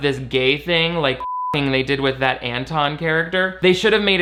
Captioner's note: beep